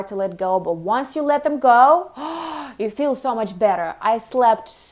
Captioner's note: gasps